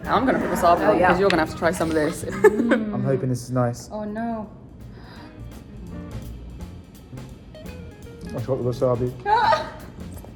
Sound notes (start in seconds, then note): 1.6 giggles; 5.1 woman gasps; 9.2 woman laughs